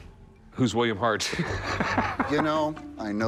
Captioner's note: laughs